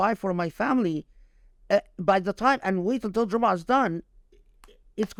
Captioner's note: speaking Arabic